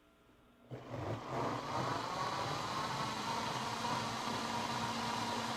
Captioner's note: blender roaring